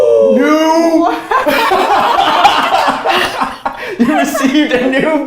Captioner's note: both laughs